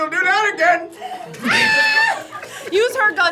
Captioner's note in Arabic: يصرخ